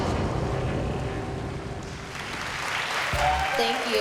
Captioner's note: applause